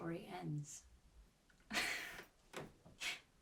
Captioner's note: laughs